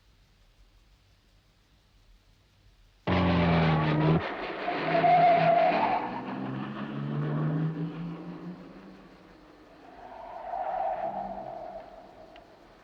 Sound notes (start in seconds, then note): 3.2 car engine roaring; 4.8 tires screeching; 10.0 tires screeching